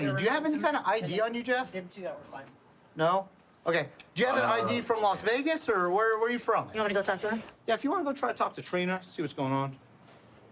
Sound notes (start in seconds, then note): none